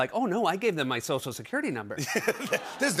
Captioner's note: laughter